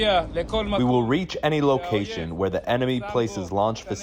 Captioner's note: through translator